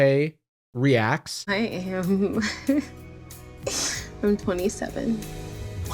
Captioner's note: giggles